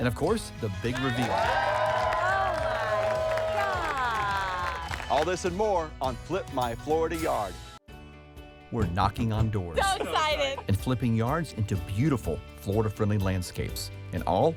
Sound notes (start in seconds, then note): 6.1 crowd cheers